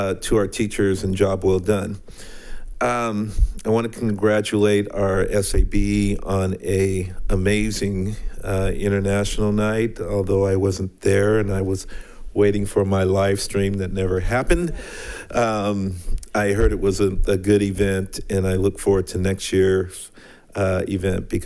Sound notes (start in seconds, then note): 14.7 attendants laughing